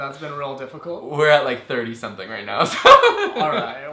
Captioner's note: laughs